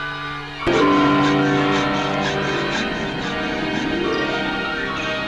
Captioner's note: sawing